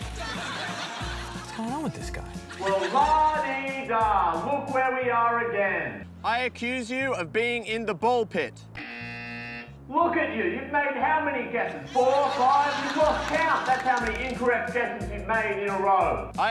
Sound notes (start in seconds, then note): 0.0 laughter; 8.7 buzzer